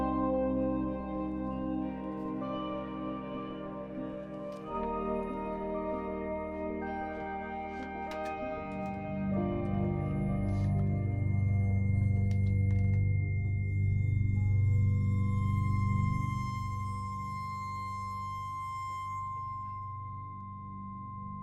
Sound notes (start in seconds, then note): 0.3 expressive electronic music; 8.9 piercing high-pitched tone over ominous electronic music